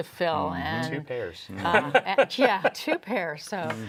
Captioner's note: laughs